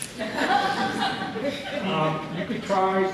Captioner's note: laughter